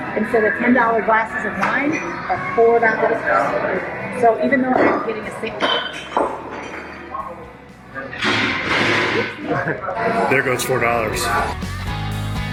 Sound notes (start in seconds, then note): 5.8 glass crashing; 12.3 upbeat music